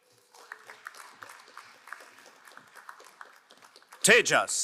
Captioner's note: crowd applauding